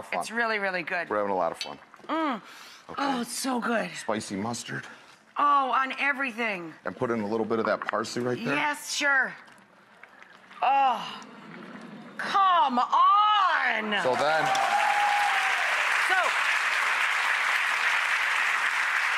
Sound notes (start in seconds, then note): 10.6 groans with delight; 13.8 audience cheers